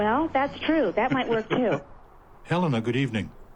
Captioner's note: chuckles